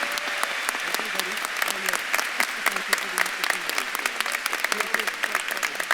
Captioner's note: faintly speaking